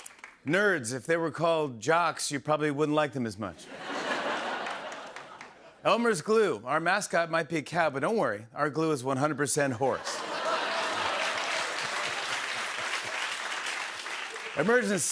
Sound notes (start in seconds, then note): 3.6 laughter; 10.0 laughter